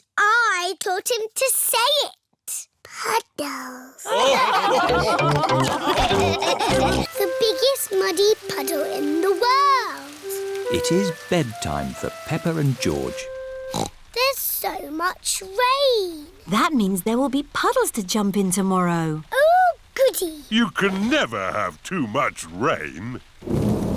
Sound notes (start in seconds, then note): 4.0 laughter; 13.7 snorts; 23.4 thunder rumbling